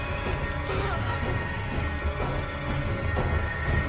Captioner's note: dripping